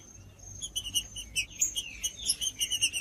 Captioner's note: trinca ferro cantando